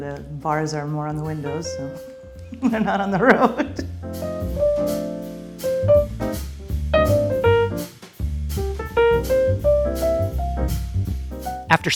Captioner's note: laughing